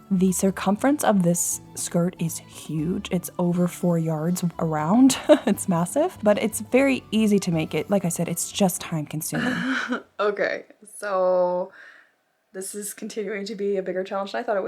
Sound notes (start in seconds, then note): 9.3 laughs